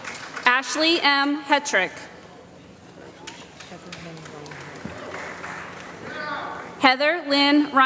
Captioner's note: applause